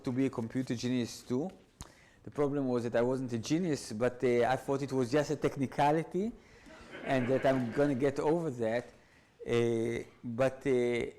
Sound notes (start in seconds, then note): 6.7 audience laughs